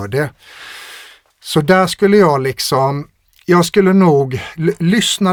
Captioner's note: scoffs